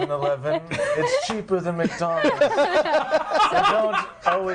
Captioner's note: others laughing